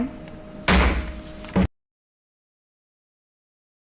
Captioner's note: gavel banging